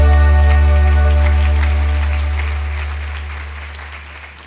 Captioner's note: applause